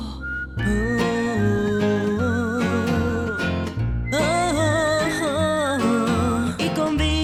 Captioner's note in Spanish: Tarareando